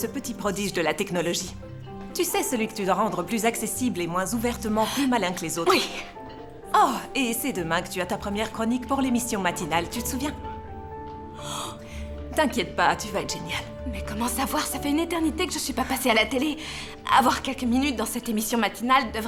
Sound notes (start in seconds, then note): 11.3 gasps